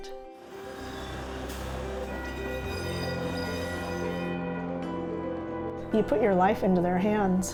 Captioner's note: train sounds